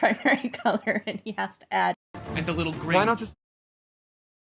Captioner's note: laughs